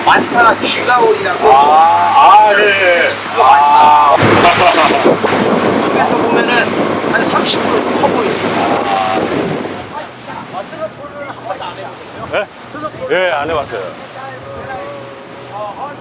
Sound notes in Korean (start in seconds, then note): 4.2 웃음